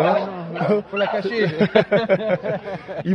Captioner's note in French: rire